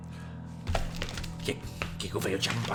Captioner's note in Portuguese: Papel revirando